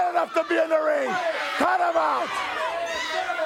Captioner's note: crowd cheering